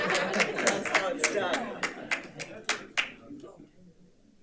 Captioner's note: audience laughs; audience applauds